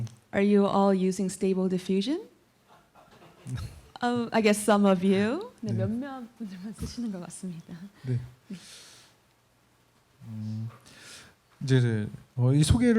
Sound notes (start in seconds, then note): 0.0 speaking korean; 2.8 laughter; 5.8 speaking korean